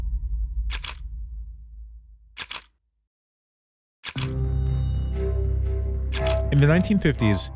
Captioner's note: camera shutter sounds